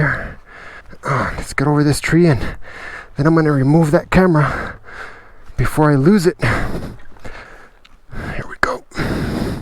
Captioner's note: grunt